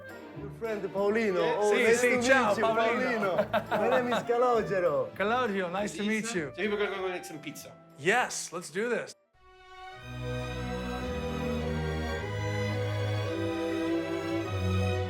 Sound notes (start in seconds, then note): 4.0 speaking in foreign language; 9.4 epic music